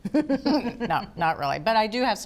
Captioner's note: all laughing